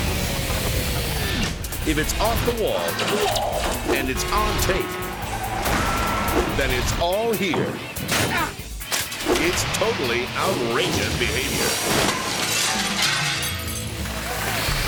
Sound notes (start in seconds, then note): 0.1 exciting music continues; 3.6 person groans; 8.4 bike crunches; 11.6 glass shatters